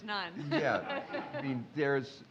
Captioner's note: laughing